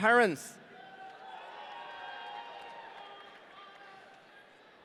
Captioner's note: audience cheering